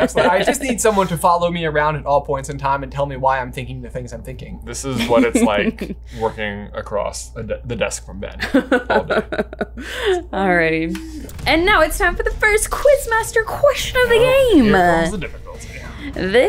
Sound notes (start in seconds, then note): 5.0 chuckles; 8.4 laughs